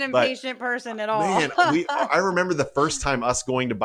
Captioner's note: laugh